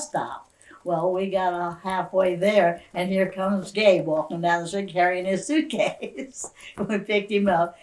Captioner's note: laughs